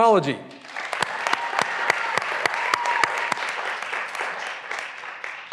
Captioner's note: graduands cheering and applauding